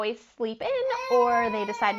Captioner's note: child cries